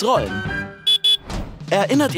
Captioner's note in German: Hupen